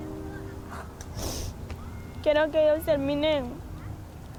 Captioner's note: soft sniffling